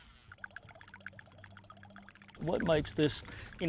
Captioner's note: buzzing